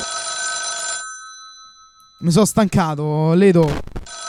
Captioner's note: phone rings